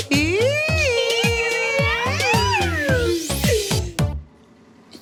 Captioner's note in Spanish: Exclamaciones